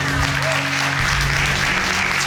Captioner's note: applause